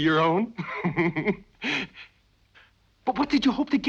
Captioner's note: Christian laughing